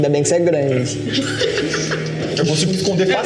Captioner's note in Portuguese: risos